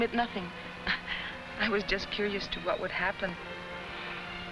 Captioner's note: chuckles